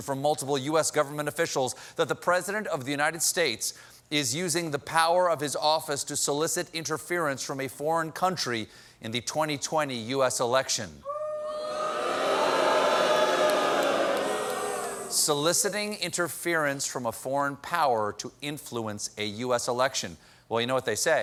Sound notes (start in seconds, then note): 11.0 audience reacts